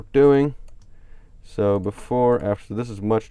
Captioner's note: clicks on mouse